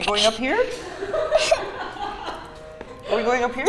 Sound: offscreen laughing

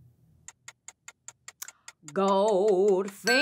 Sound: clock ticking

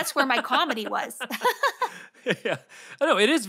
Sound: Ian and Felicia laughs

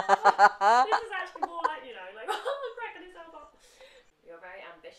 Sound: mimics cheerfulness

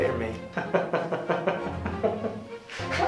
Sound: laughter

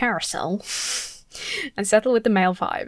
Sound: laughs

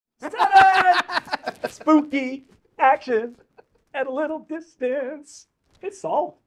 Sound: laughter

